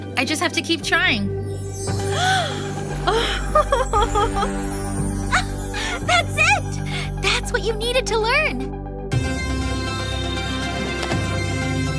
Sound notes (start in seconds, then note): 3.5 Shellnelle laughs; 9.1 upbeat music